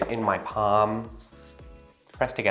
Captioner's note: rubs hands